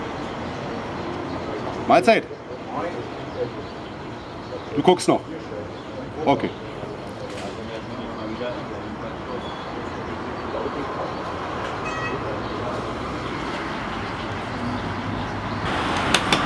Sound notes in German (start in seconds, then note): 8.1 Strassengeräusche